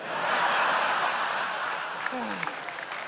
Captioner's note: laughter